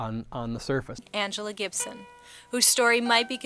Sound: voiceover

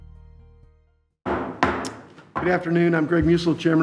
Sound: gavel thuds

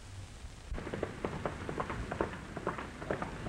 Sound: galloping

